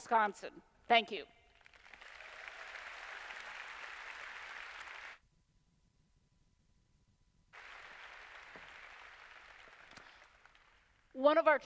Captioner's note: applause